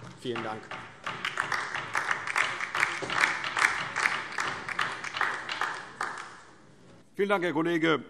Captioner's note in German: Beifall DIE LINKE